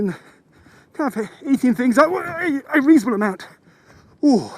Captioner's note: yelps